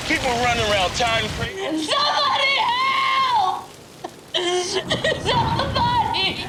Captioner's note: crying